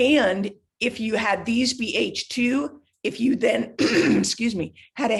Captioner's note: clears throat